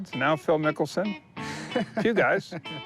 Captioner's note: laughs